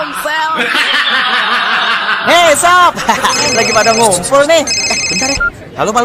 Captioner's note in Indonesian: tertawa